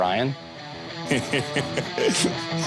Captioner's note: laughing